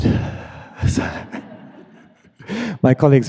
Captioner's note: everyone laughing